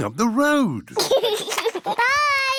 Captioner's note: giggles